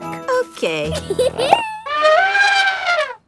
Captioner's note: giggles; trumpets